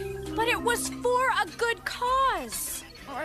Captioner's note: none